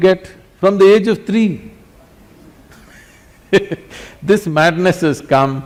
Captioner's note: laughs